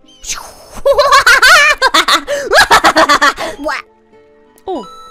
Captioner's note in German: dämonisches Lachen